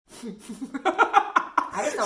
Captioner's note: laughs